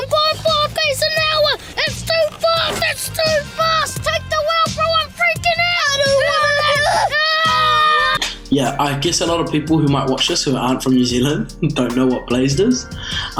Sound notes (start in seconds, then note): 7.3 kids scream